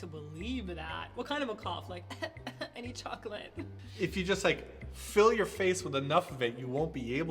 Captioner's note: fake cough